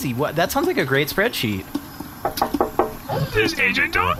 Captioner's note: knocks on the glass